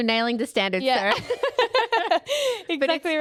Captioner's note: both laughing